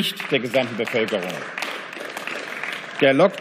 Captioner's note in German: Beifall